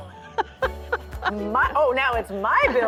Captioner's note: laughter